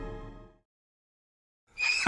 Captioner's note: silence